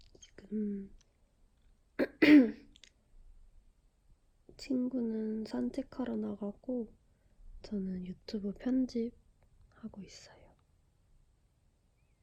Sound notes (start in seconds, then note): 2.0 cough